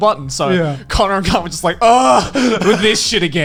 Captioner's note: groans loudly